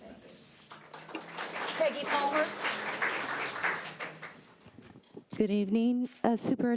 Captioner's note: audience applauds